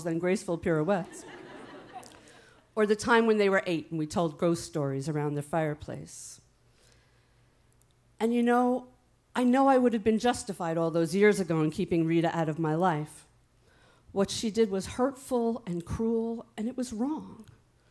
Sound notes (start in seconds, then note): 1.0 audience laughing